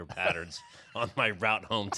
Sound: laughs

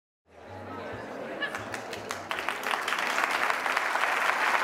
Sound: crowd applauding

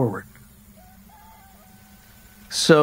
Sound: rooster crowing

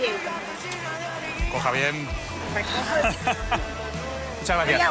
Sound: laughs

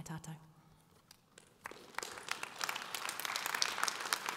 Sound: audience applause

